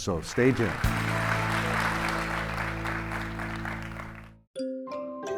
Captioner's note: audience clapping; upbeat music